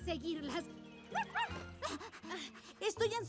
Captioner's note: bark